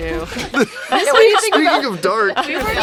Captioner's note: laughs and overlapping voices